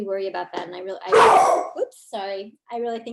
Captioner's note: dog barks